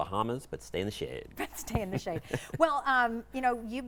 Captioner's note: laughs